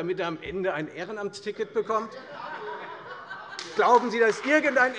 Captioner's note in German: Heiterkeit und Beifall bei der FDP sowie bei Abgeordneten der SPD und der LINKEN